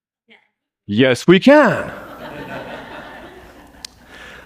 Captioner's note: laughter